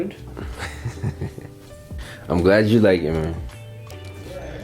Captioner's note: laughs